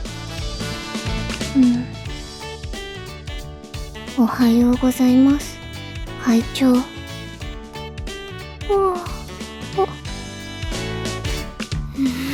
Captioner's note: yawn~~~